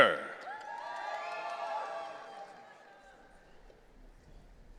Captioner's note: audience cheering